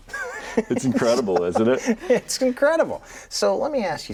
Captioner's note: pair laughs